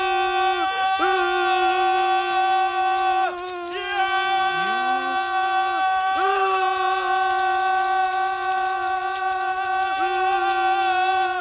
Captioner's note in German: Höhlenmenschengeheul